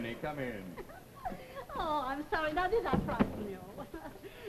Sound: Gurney, giggles

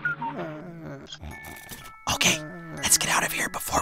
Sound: snoring; whispering

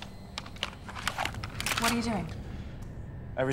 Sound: gun cocking

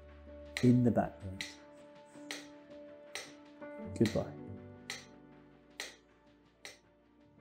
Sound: clock ticks 7 times

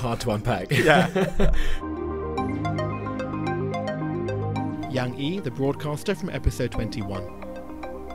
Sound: voiceover

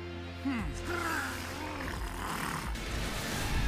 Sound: snarling

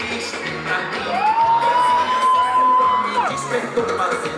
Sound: crowd

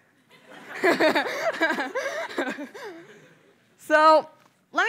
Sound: laughter

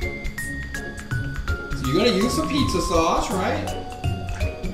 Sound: voiceover

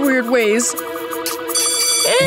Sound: bell ringing

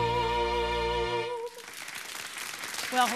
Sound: audience applauding

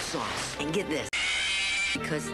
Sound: Chica screaming sound effect from FNAF

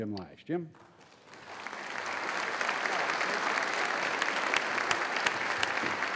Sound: applause

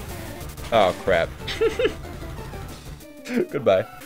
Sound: laughs

